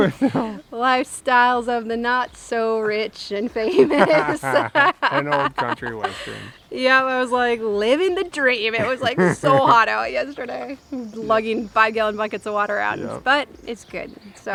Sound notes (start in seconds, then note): 4.5 laughs